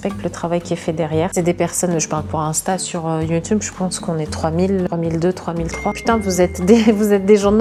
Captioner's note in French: bip